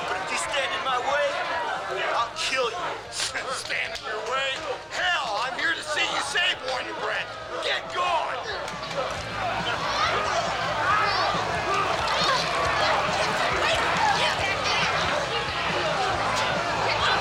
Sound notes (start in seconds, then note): 8.9 upbeat music; 9.9 crowd shouting